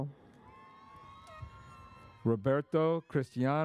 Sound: audience cheers

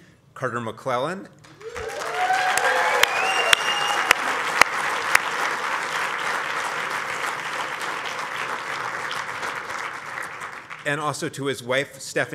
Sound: applause

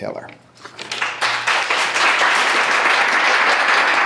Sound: clapping

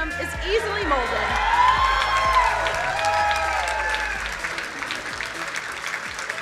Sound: crowd cheering and applauding

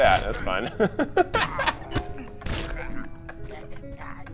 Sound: laughs

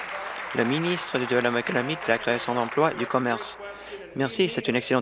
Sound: applause

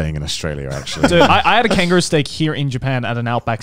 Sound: laughing

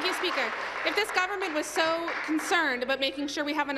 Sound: applause

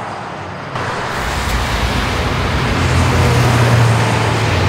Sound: engines rumble

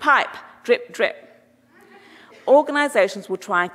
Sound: audience chuckling

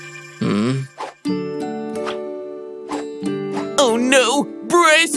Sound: sighs

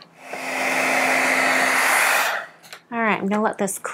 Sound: heat tool whirring

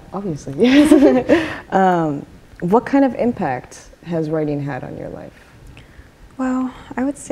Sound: laughs

